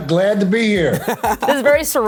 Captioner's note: laughter